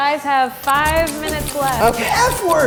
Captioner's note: clock ticking; laughing